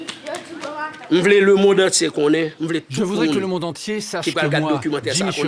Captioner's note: French spoken audio